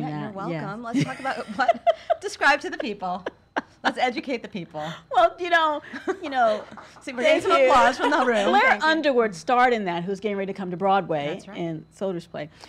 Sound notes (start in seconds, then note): 0.9 LisaGay laughs; 6.2 distant applause